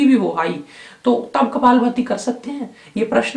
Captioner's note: rapid exhalation